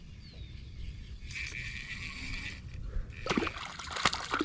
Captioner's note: rapidly reeling; fish splashing